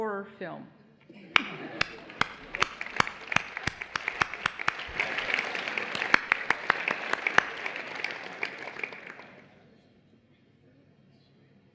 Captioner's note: applause